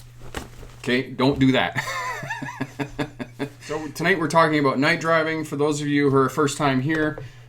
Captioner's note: aggressive mock steering of vehicle - laughing